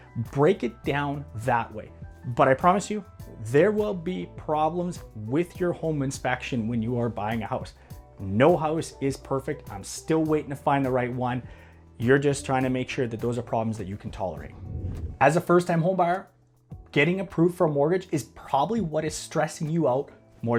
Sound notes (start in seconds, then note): 14.4 air whooshes